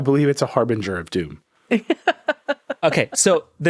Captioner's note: laughing